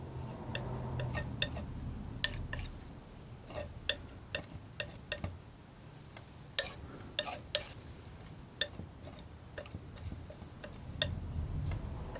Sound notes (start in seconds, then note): 3.0 tapping